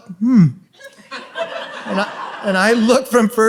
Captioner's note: audience laughs